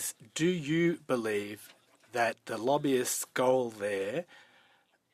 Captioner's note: speaking French